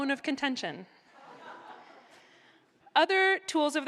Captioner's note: laughter